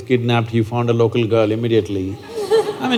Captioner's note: laughter